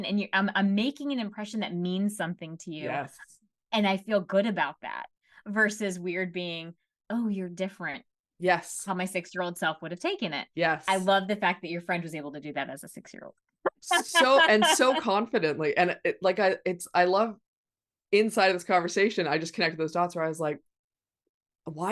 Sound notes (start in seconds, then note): 13.7 laughing